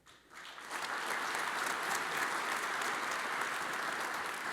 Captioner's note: audience applauds